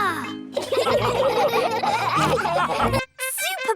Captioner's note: all laughing